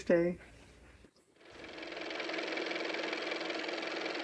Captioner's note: car motor